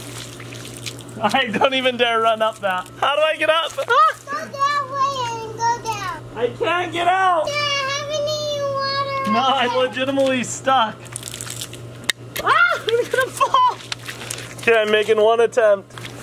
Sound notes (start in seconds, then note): 12.4 screams